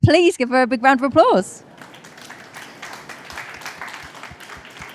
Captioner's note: applause